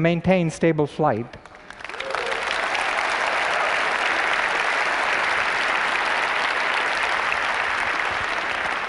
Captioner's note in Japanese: 拍手